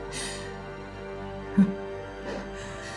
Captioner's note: breathing shakily; single, mirthless laugh; breathing shakily